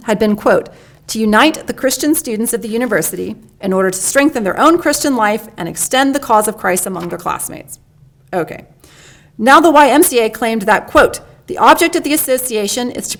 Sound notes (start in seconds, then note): none